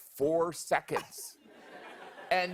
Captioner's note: laughter